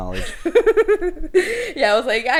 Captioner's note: laughs